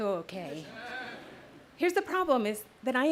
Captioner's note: audience laughs